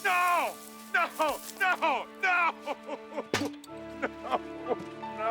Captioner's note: sobbing